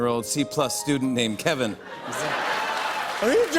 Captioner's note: laughter and applause